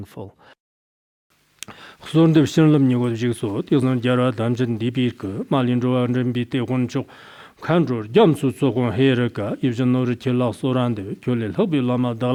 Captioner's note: giving oral transmission in Tibetan